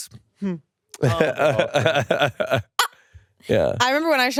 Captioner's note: laughs